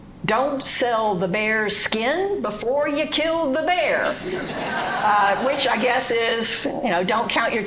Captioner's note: speaking French